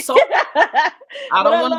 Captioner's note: laughing